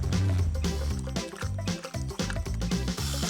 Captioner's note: humming; chomping